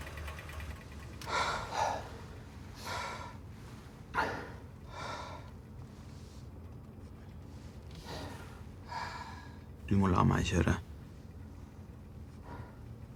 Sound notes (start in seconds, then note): 1.2 both exhale